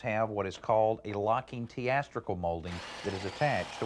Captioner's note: drill whirring